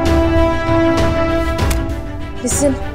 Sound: door closes

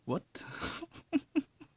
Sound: chuckles

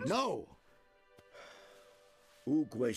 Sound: sigh

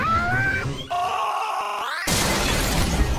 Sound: Classic flapjack scream

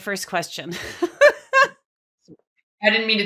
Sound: laughs

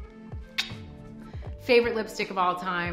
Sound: clicking tongue

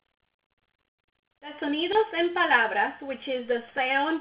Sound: speaks in foreign language

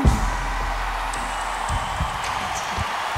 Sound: crowd cheering; slow hip-hop music

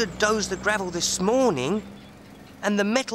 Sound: trucks gasping

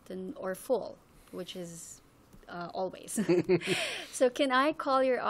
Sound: laughing

